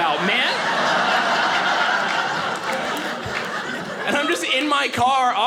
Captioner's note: audience laughing